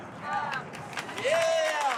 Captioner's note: cheering and applause